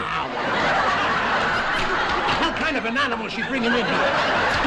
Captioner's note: audience Laughing